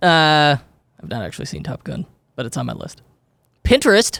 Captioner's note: faintly speaking